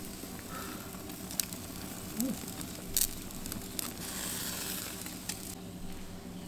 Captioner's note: shivering